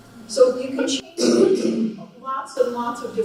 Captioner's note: coughing Drowns Out Her Voice